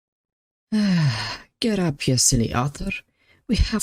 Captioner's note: sigh